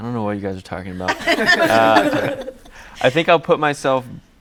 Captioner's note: all laughing